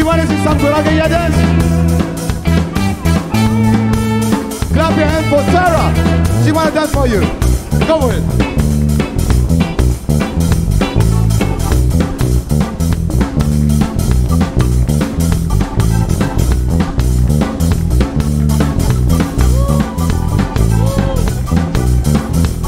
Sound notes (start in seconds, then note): 7.5 speaks foreign language